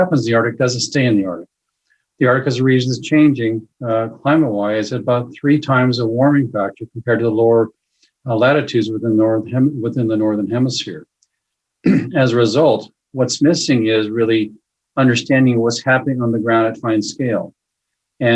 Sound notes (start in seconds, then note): 11.8 clears throat